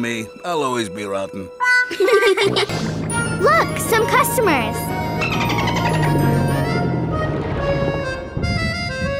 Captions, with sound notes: I'll always be rotten. [laughing] Look! Some customers.